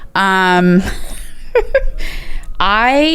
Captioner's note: laughs